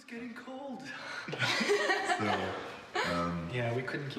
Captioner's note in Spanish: riendo